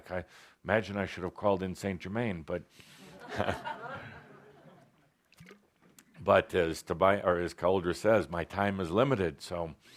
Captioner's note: laughter